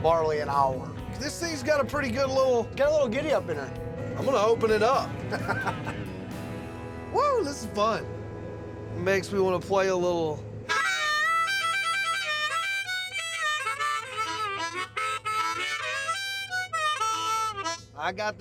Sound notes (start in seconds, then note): 4.6 laughing; 10.6 harmonica music playing